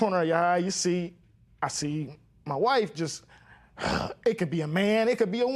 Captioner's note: huffs